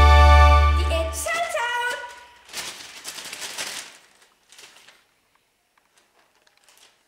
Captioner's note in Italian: rumore di carta